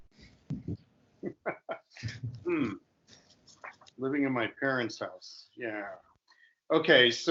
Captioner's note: chuckling